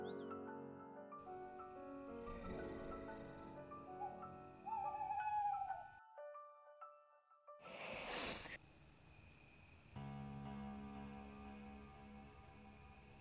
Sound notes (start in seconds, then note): 7.8 sniff?